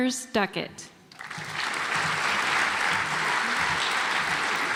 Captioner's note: audience applauds